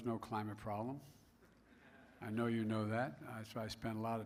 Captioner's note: laughter